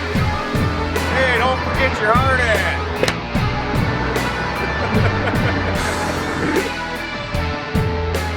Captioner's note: laughs